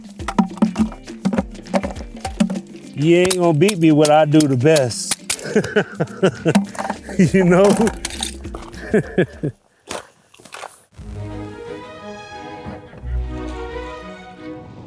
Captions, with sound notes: (bucket rattles) You ain't gonna beat me at when I do the best. (laughs) You know? (laughs) (classical music)